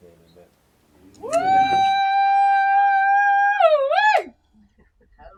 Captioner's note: woman cheering